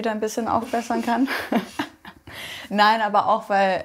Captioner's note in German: Beide lachen